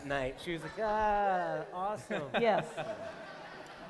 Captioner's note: laughter